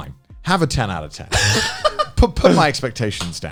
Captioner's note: Joey laughing